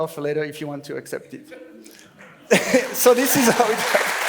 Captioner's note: laughs